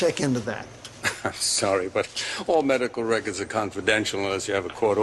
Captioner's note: scoffs